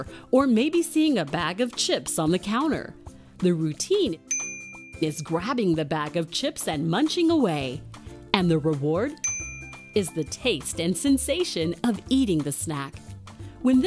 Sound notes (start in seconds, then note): 4.3 bell dings; 9.2 bell dings